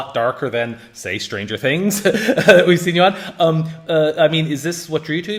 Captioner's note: laughs